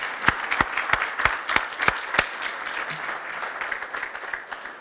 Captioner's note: audience applauds